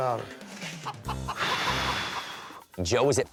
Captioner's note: exhales